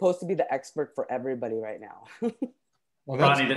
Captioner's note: chuckles